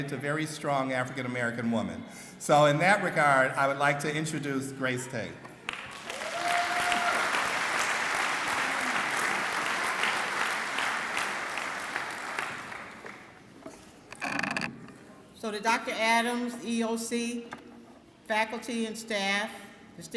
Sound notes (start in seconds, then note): 5.6 clapping